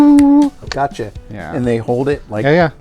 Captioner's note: snap